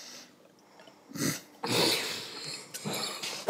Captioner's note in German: Lachen